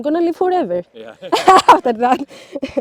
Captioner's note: laughs